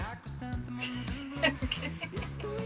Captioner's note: laughs